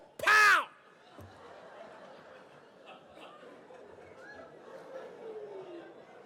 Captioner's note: audience laughs